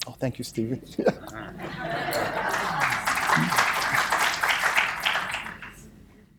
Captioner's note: applause